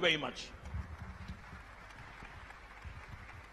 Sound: applause

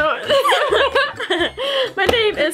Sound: laughing

